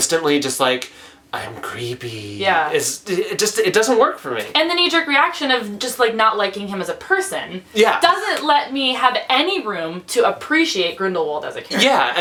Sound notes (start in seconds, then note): 1.4 creepy voice